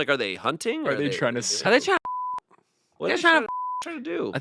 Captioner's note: beep